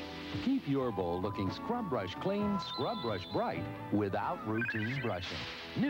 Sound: shimmery chirping

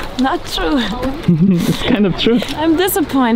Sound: giggling

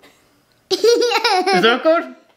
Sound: laughing

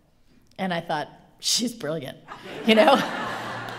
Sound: laughter

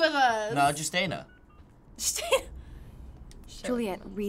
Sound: dialing cellphone; laughing

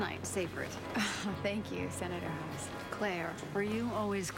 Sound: chuckles

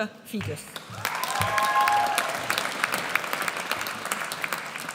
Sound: audience cheers

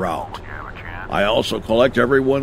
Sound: radio chattering

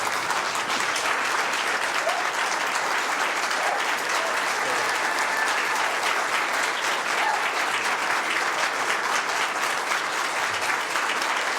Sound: applause

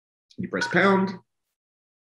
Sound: beep

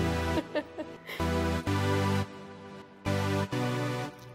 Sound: upbeat techno music; laughs

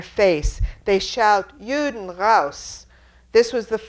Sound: speaks in foreign language

